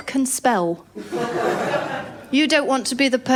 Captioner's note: laughter